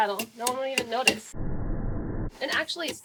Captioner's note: whoosh